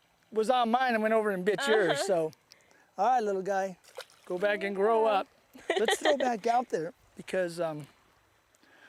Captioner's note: laughter